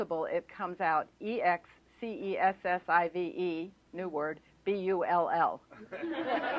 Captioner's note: laughter